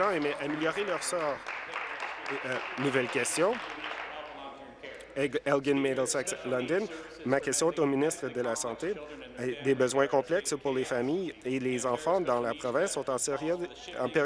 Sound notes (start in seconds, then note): 0.0 applause